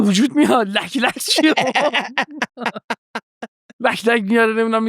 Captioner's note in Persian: خنده